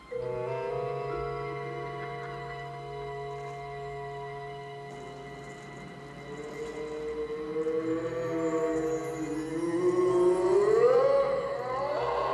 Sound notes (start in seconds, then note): 7.8 Sir Simon moaning